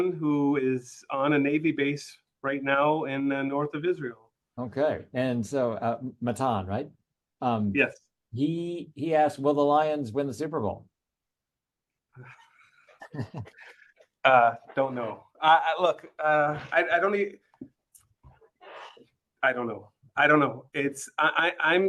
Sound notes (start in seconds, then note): 12.2 laugh